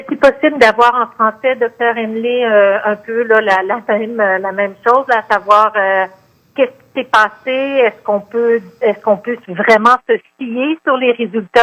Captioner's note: speaking French